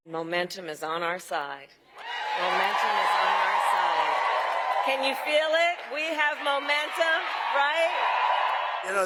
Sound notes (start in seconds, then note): 4.8 cheering; 8.8 cheering